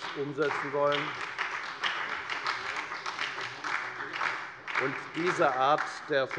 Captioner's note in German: Beifall bei der FDP und der SPD